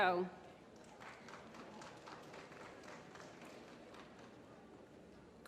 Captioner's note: applause